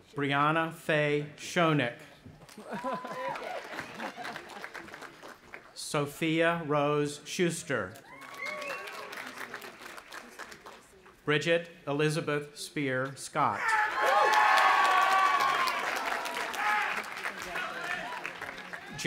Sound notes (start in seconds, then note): 2.5 audience applauding; 2.6 laughing; 8.0 audience applauding and cheering; 13.9 audience applauding and cheering